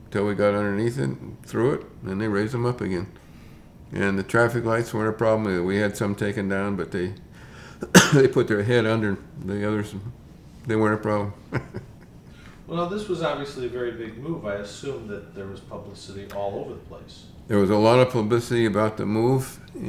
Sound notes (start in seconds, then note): 11.3 chuckles